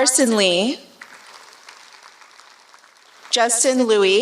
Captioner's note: applause